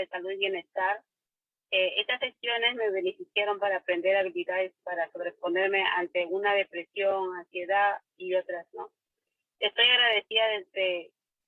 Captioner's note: spanish